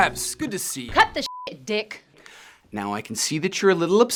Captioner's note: beep